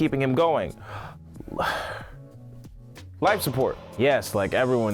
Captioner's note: sighs